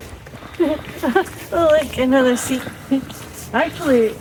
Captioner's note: laughter